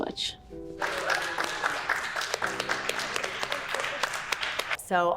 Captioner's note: crew applauds